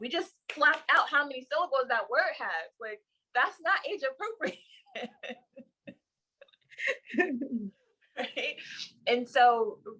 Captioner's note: both laugh